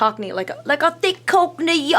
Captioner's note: imitates British accent